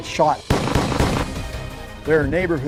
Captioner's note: gun banging